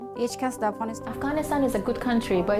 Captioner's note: speaking foreign language